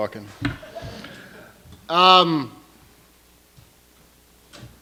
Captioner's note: laughter